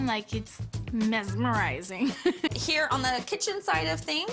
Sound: chuckles

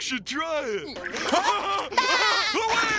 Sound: giggling

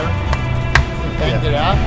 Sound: claps

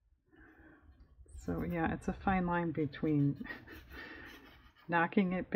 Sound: laughs

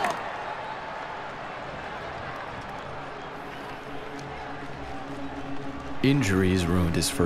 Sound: crowd cheers; crowd buzzes

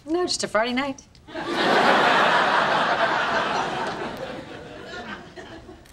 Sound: audience laughing

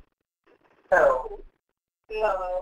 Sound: voiceover

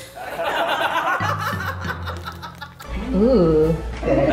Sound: laughter

